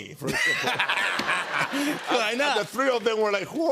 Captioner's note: laughter